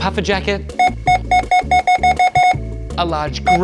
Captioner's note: scanner beeping repeatedly